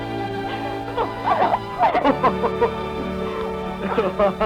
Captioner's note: laughter